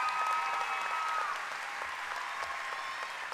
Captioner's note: cheering and applause